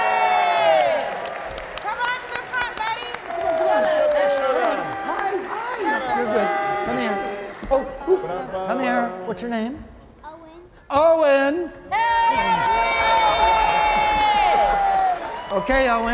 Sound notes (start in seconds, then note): 0.0 all cheering and clapping; 2.6 panelists chattering; 11.9 all cheering